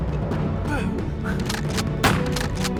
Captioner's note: groans; rapid gunfire